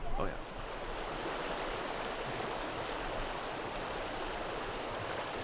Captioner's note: water hissing